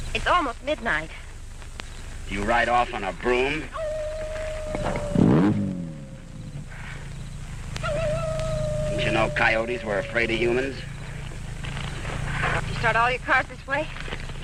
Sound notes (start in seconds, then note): 3.2 coyote howling; 5.3 engine rumbling